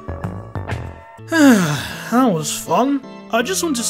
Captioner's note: sigh